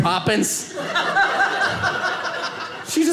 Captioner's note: audience laughing